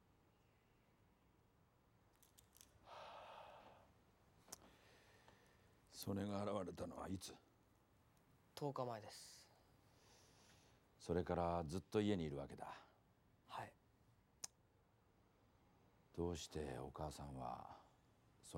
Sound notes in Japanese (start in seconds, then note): 2.8 息を吐きかける音